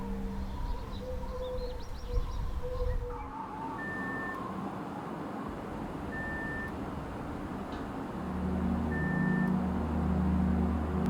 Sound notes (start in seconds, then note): 3.8 microwave beeping; 8.0 sullen music